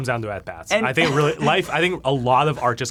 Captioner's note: laughs